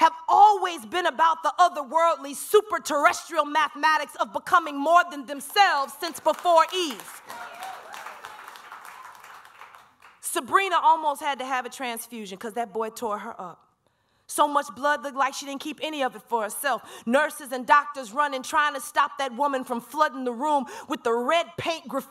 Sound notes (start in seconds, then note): 5.5 applause